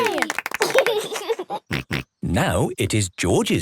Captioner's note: laughs